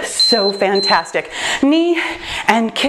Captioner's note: timer beeps